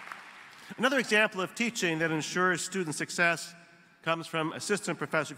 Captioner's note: applause